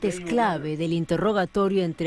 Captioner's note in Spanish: habla en ingles